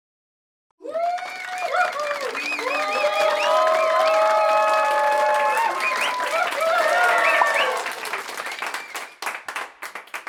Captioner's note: applause and cheer!